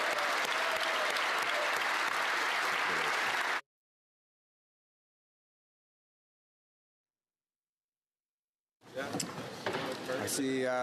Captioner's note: applause